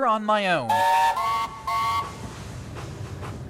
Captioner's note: both whistle